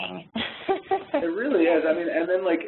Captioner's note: laughs